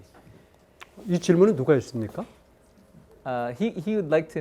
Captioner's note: speaking in Korean